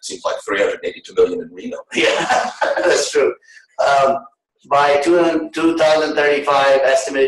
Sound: laughter

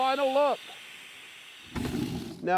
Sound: airbrushing

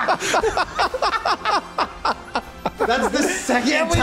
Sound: laughs

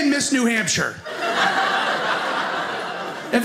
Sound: audience laughing

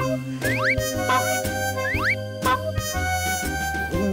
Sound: honk! Honk! Honk!; honk! Honk!

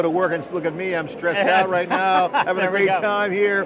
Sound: laughs

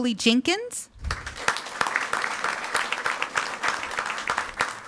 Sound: audience applauding

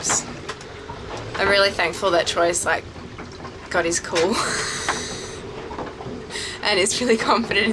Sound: laughs

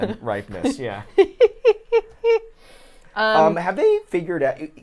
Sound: laughs

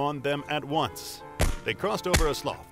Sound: gunshots

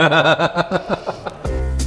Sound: laughing

